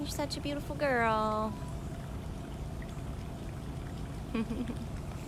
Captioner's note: laughter